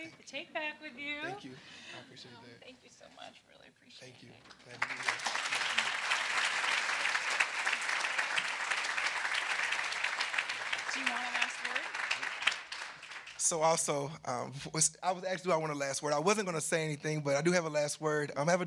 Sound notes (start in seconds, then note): 4.9 audience applauding